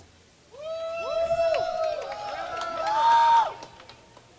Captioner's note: cheering